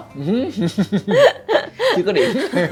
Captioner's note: laugh